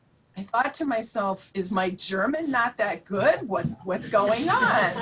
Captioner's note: laughter